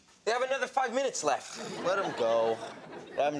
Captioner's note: sighs